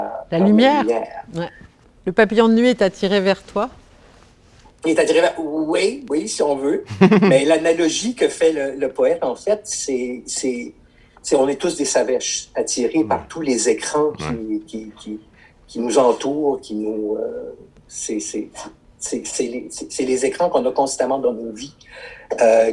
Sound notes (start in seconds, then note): 6.8 laughter